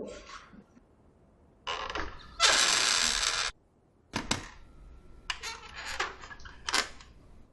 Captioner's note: door creaking